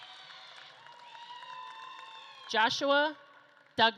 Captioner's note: audience claps and cheers